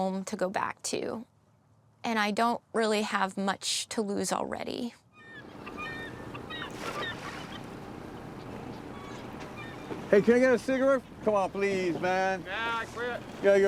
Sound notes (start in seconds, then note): 5.1 seagulls squawking